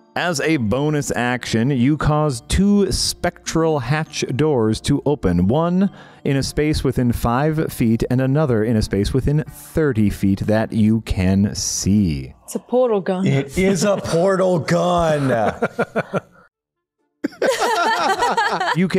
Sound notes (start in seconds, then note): 15.6 Yahtzee/Mortimer Laughs; 17.2 everyone Laughs